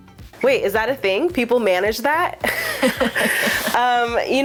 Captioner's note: both laugh